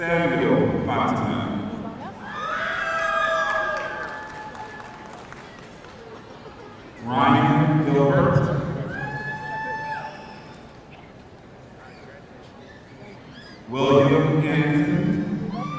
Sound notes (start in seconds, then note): 2.3 audience cheering; 9.0 audience cheering